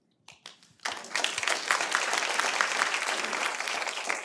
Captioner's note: audience applauding